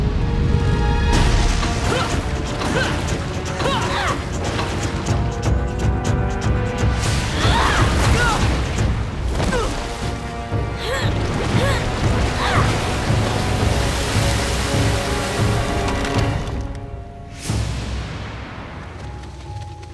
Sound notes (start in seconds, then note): 1.5 groaning; 7.3 roaring; 11.3 groaning